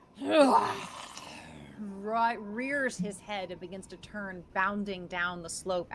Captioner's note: roars